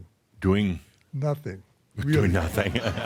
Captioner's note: laughter